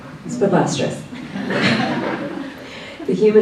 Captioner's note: laughs